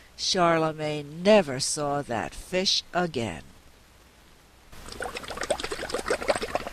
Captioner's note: sound of bubbles in water